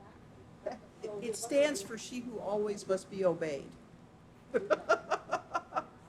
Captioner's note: laughing; laughing